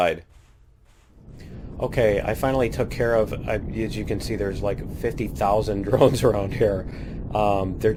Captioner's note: laughs